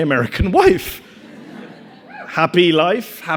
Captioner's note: audience laughing; audience cheers